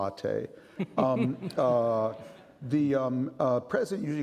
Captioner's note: laughing